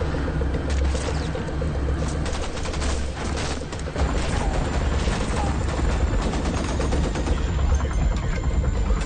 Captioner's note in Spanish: Disparos